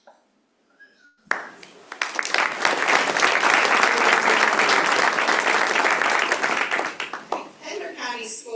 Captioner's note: applause